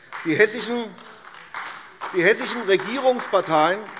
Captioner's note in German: Beifall AfD